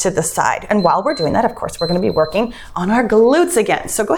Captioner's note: timer beeps